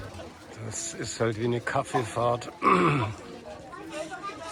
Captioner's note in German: räuspern